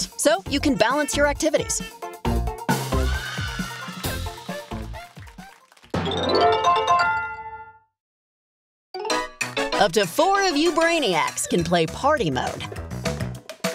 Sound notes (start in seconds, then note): 2.8 crowd cheering; 3.9 music fades; 6.0 peppy chime sound